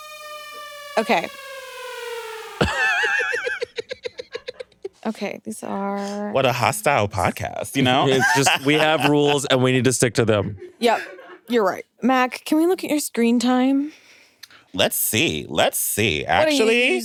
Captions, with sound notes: Okay. (everyone laughs) Okay, these are- - What a hostile podcast, you know? - It's just, we have rules and we need to stick to them. - Yep, you're right. Mac, can we look at your screen time? - Let's see. Let's see actually.